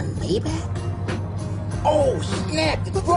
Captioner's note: car